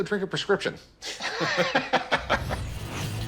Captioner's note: both laughing